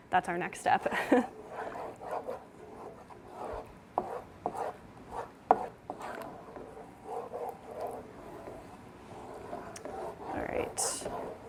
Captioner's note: spoon stirring in pan